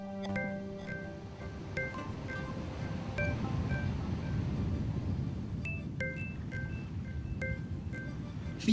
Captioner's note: waves gently lapping